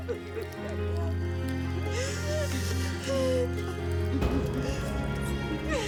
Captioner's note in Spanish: Sollozos